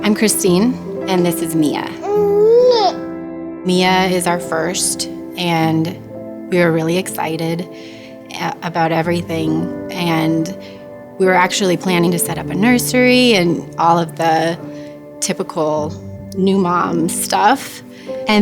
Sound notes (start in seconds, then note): 2.0 baby cooing